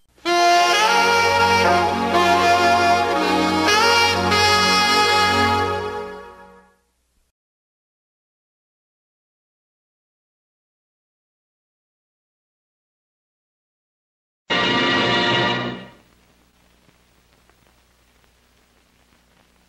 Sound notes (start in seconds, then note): 0.2 jazzy saxophone music playing; 7.7 silence; 16.3 silence